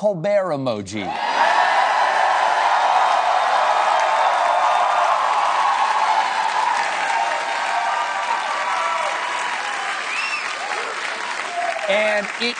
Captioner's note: cheers and applause